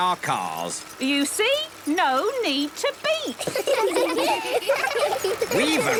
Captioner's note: laughter